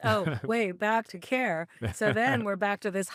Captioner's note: chuckling